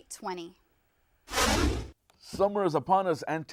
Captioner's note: whooshing